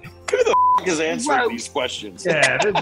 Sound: beep

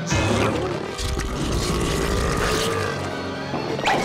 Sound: belching

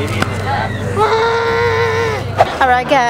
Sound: background chattering; roaring

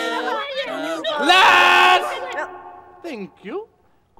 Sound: yells

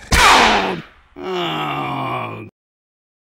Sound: groan

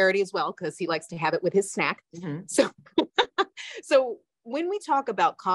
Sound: laughs

